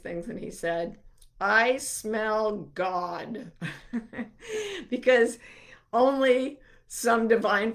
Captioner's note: chuckling